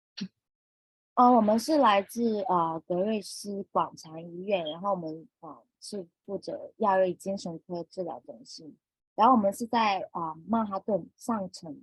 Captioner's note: speaking chinese